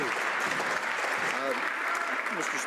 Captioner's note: some Applause